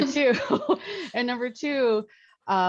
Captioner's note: laughs